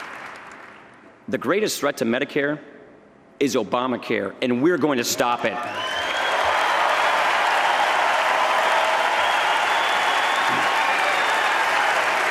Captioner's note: applause